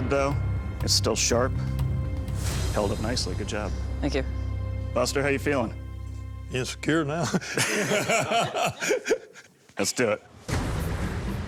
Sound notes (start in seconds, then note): 7.3 laughter